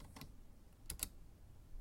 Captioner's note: mouse click